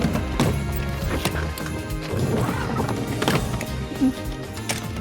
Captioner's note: suitcases thudding